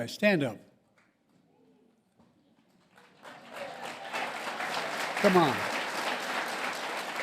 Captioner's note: applause